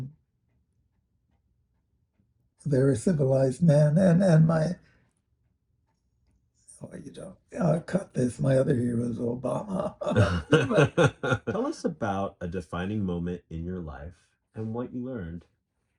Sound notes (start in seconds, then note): 9.5 laughter